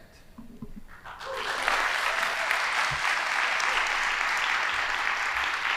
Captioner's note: audience applauding